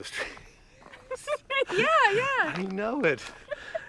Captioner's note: both laugh